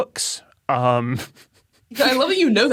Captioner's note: snickers